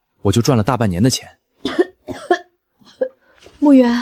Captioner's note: cough cough cough